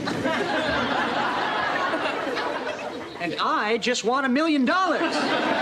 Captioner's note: audience laughs